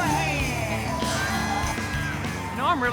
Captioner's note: crowd cheers